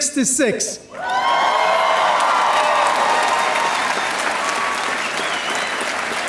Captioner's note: audience cheering and applauding